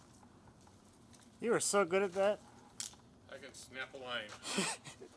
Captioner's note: laughs